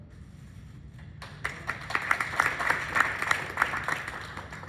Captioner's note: clapping